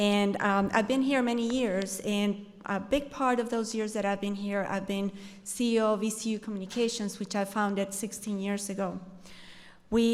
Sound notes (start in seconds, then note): none